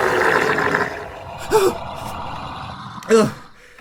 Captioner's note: monstrous gurgling rises; narrator gasps